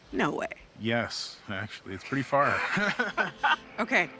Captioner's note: both laugh